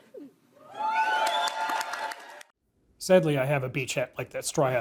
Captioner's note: applause